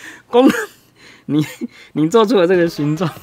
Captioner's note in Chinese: 笑到岔氣